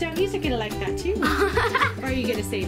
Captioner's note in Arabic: يضحك